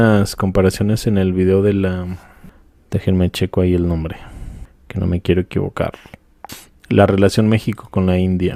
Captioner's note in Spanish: resoplido